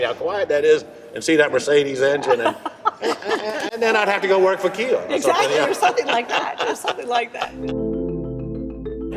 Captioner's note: laughs